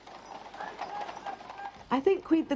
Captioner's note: horse hooves clopping; soldier yelling faintly